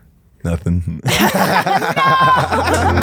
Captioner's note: laugh